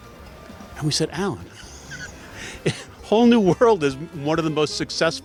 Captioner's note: laughs